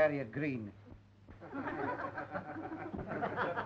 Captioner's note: snickering